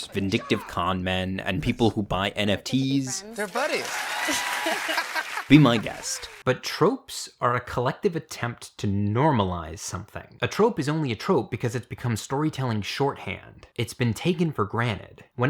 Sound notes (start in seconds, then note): 3.2 audience applauding; 3.2 audience cheering; 3.8 both laughing